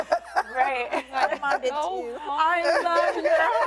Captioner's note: laughter